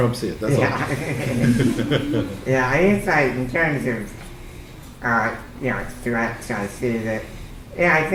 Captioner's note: laughter